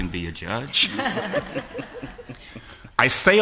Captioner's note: laughter